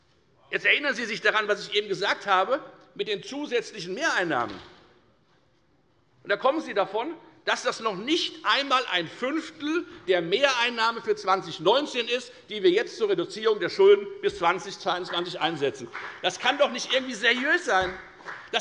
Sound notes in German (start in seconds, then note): 14.9 Beifall bei der FDP